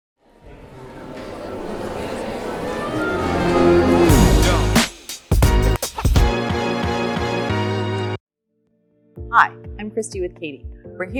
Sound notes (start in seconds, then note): 0.2 audience chattering; 3.3 hip hop music